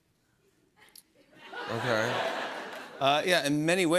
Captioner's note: laughter